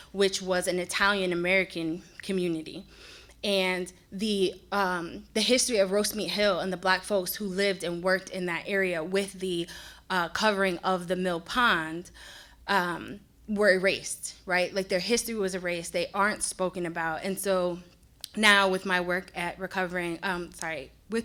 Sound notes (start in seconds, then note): none